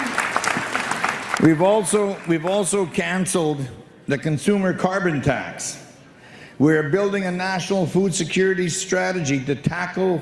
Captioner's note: applause